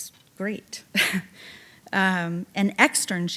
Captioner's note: chuckling